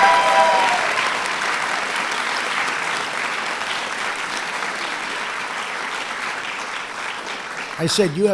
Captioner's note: applause